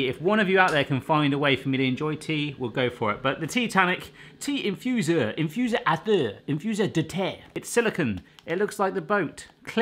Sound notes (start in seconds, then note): 5.4 speaking foreign language